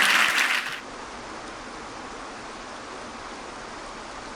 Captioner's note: water sloshing; audience clapping